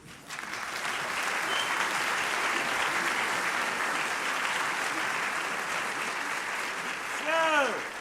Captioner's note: applause